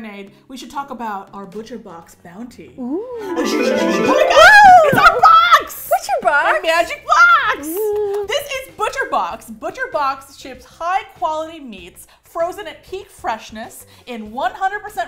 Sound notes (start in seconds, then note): 5.3 wooshwooshwooshwoosh